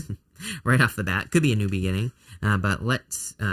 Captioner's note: laughs